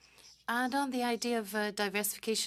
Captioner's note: speaking French